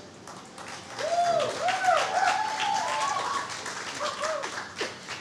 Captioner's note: clapping and cheering